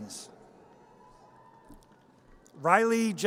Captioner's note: audience cheers